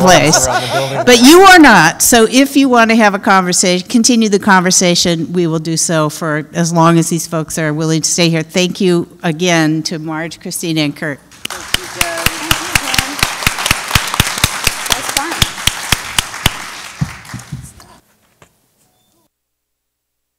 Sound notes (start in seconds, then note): 15.7 applause